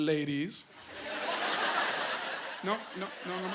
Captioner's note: laughing